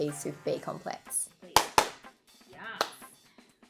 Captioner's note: clapping